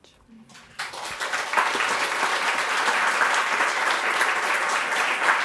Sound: audience applauding

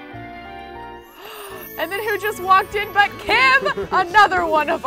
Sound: romantic music; gasps

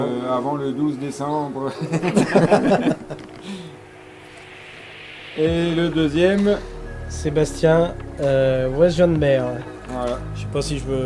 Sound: laughs - joke

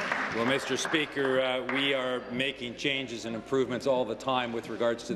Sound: applause

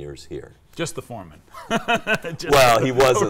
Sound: laughing

